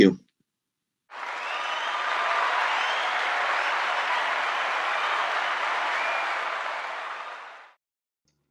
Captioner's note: applause